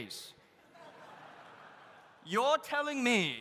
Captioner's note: audience laughs